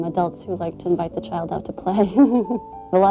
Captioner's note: laughs